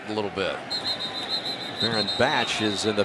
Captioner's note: whistle